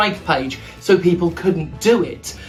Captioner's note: none